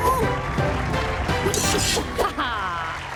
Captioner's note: crowd cheering